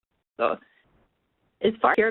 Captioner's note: phone reception glitches